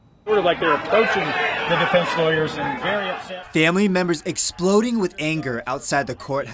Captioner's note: family members screaming at defense attorney